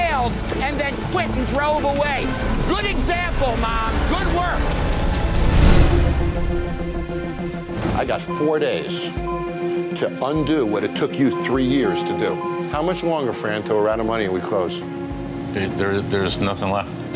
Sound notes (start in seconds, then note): 4.6 logo whooshes; 6.1 tense music